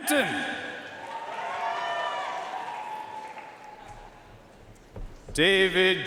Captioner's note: audience cheering and applauding